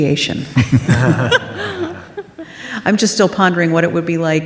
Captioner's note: audience laughs